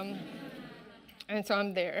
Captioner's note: audience laughing